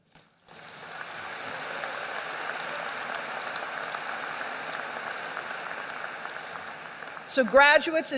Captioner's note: applause